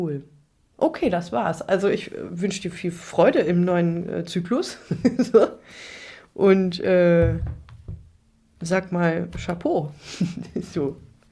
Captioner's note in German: gelächter